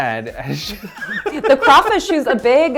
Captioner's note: both laughing